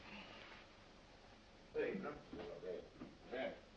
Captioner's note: voices